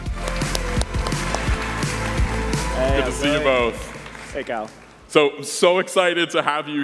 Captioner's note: applause